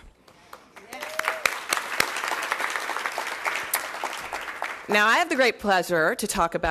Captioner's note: applause